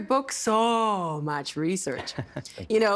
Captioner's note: chuckling